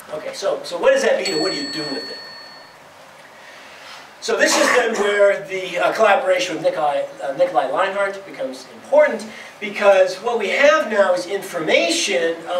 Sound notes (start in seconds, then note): 1.2 bell chimes